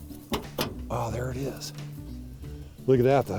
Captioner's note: car trunk opens